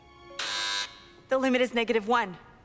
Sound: buzzer rings

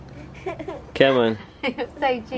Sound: laughs

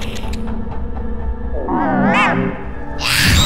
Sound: robot expresses intense fear

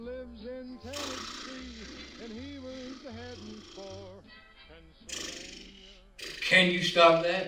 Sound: blows rasberrys

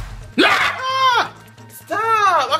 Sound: filmer shouts

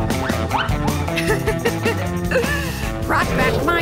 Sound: laughing

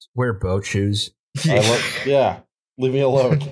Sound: laughter

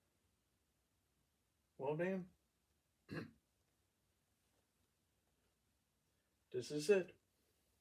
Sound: small cough

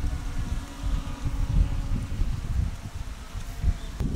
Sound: drone sounds

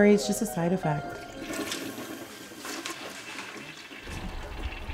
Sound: toilet flushing

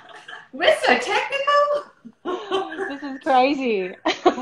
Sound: laughter; laughter

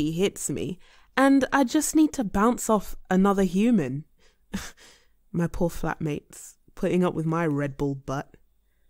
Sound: sighs

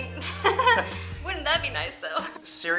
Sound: laughter

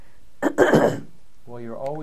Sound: clears throat

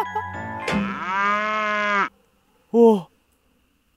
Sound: moo

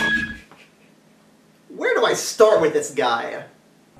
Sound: laughs

